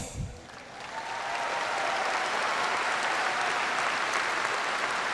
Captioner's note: applause